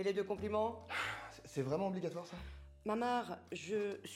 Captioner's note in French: soupir